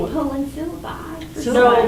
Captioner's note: murmurs